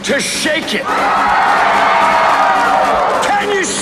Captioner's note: cheering continues